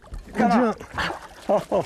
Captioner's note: laughter